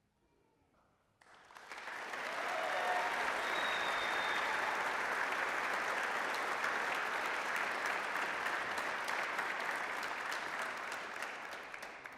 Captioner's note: applause